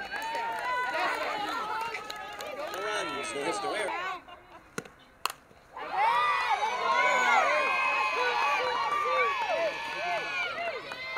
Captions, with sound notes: 4 runs and hits-- [CROWD CHEERING]